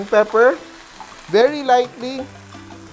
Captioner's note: sizzle